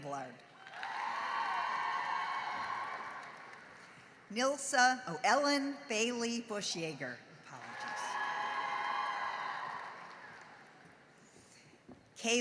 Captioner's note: cheering and applause